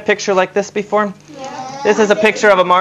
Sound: audience response

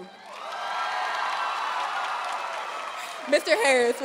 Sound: audience cheering and applauding

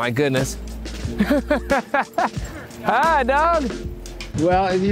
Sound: laughing

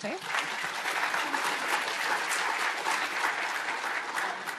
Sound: audience applauding

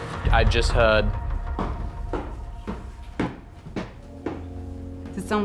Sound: stomps

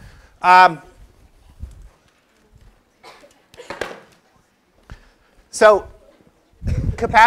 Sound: cough

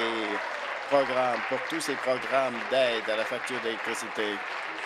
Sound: applause

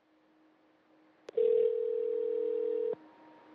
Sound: phone rings

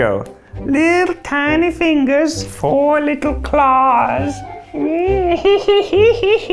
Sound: laughs

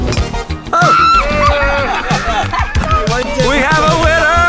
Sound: group cheering; yelling

